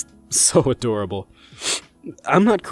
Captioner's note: sniffs